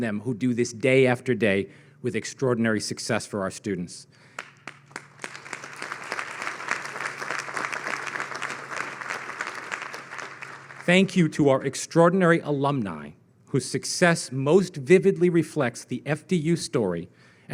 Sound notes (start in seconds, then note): 4.3 audience clapping